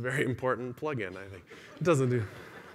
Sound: laughter

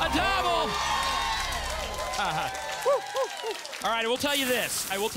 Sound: audience applause

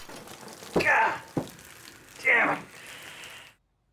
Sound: groans

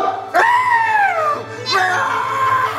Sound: screams; laughs

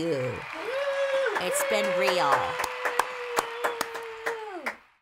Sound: studio audience cheers; hand claps

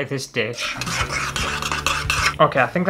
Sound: scrapey spoon sounds

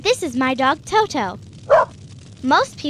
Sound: Toto barking

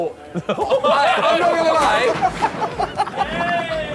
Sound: laughing

